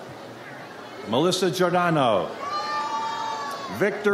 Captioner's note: audience cheers